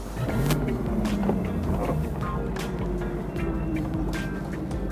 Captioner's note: boat motor running